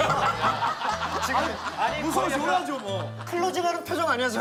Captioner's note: laughter